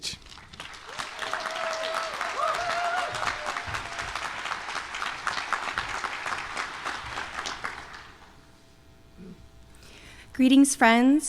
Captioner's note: applause